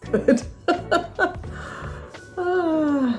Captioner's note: laughs